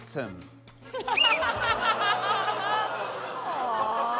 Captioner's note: whistle blows, laughter